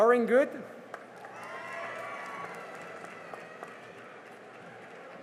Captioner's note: cheering and applause